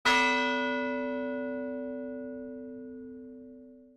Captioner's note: bell rings